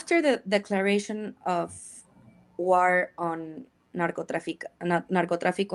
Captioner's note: speaks in Spanish